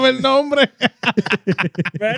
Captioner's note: laughing